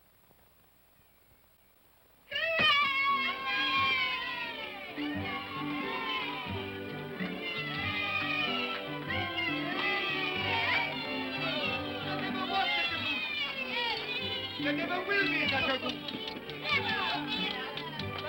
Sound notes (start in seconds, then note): 2.0 children cheer; 3.3 upbeat music